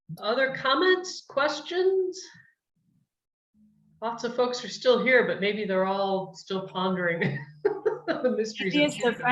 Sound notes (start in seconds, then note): 7.2 chuckles